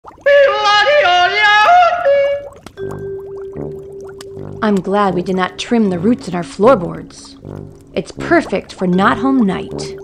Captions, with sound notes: (raven yodeling) (whimsical music) - I'm glad we did not trim the roots in our floorboards. It's perfect for Nothom Night.